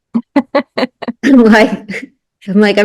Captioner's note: both laughing